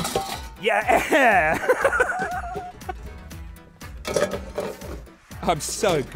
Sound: clattering of pans

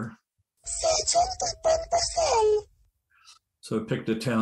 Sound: hi pitched machine voice

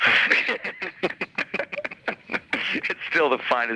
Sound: both laughing

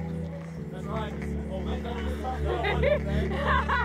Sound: crowd chattering

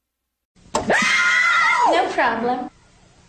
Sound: kids screaming

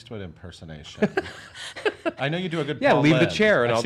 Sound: Erich laughs

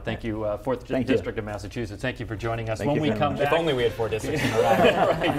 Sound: laughter

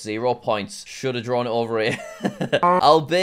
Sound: laughs

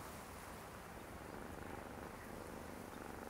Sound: none

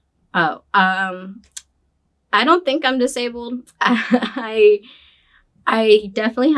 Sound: laughs

